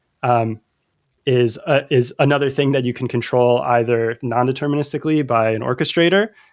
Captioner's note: uh